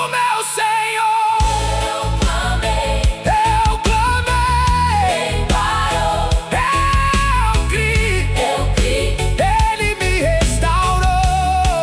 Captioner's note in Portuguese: grito